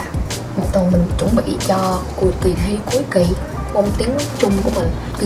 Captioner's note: Mandarin